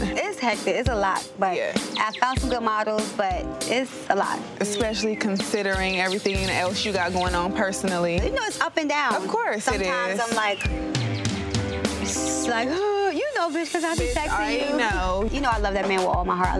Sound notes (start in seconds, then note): 11.1 pretends to sob